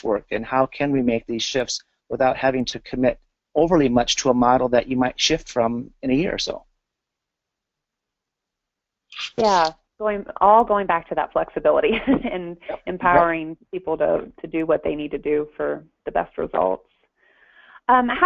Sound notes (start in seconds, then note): 9.2 pause; 11.9 laughter